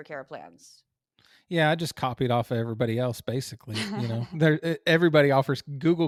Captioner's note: laugh